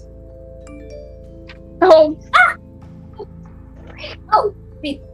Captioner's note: incoming text sound interrupts